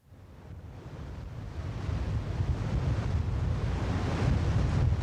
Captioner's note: water rushing